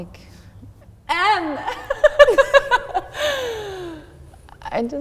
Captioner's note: laughs